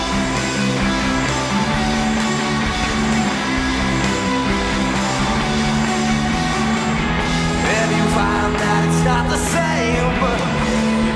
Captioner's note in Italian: Applauso